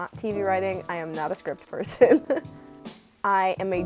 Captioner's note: laughing